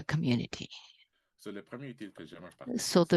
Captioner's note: speaking french